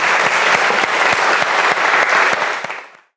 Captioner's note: audience applauds